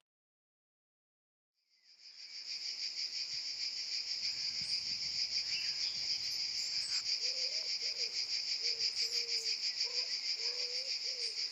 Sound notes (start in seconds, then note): 1.3 insects chirping